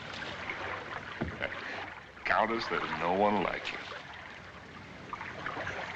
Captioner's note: chuckles